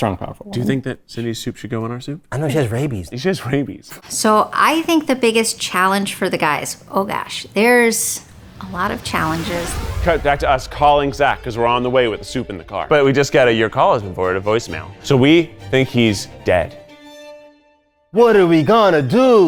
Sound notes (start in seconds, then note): 9.1 graphics whooshing